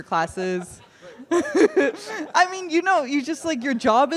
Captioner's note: laughter